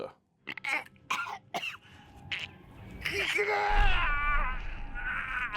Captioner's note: Barry coughs and screams